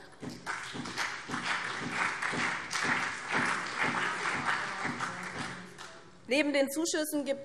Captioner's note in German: Beifall BÜNDNIS 90/DIE GRÜNEN und CDU